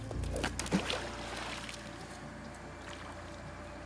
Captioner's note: water splashing